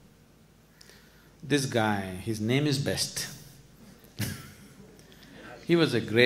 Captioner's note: laughs